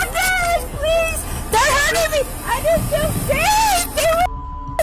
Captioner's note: suspect screaming